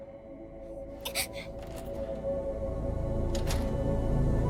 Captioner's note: Kaufmo growls; exclaims softly